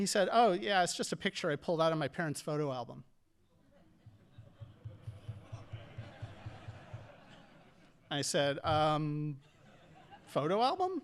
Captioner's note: audience laughing